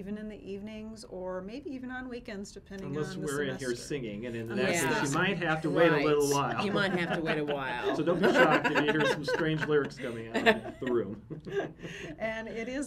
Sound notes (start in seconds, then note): 6.2 laughs